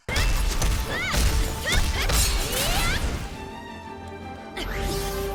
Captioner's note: blades clashing; protagonist shouting; epic music